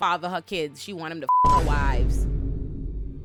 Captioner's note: beep